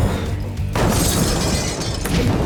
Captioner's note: glass shatters